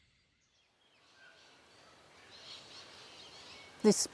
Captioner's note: birds chirping